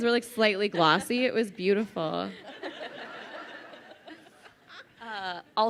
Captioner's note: crowd laughing